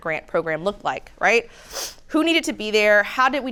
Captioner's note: sniffs